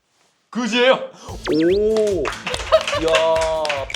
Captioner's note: impressed